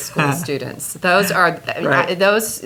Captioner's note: laughs